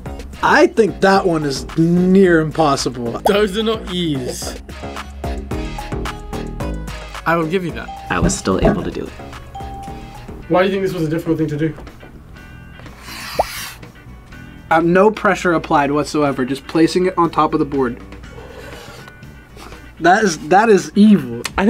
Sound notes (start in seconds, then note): 7.9 ding; 9.5 ding; 12.9 chalk scratches; 18.4 chalk scratches